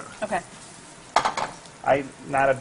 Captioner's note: sizzling